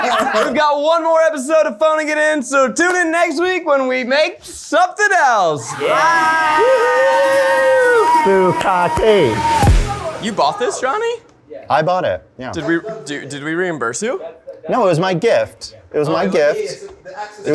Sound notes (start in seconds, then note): 0.0 everyone laughing; 7.5 everyone cheering